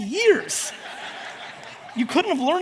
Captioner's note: audience laughs